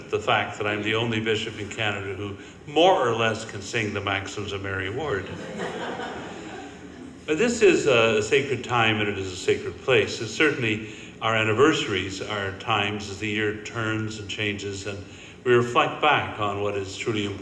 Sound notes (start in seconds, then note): 5.2 audience laughing